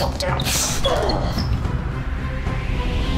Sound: Blacktain groaning

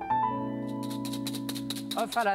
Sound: metal whisking

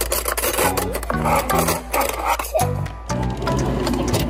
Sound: cutlery clacking

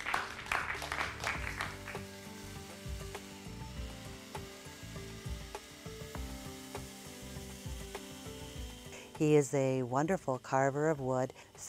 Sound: applause

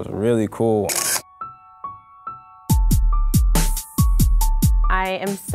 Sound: shutter clicking

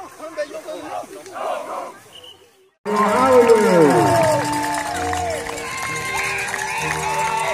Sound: applause

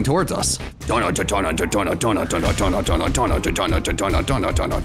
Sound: vocalizing

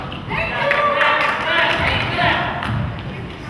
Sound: crowd claps

